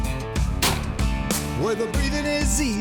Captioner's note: gunshot